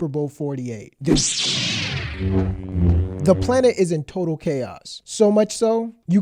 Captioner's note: lightsaber sound effects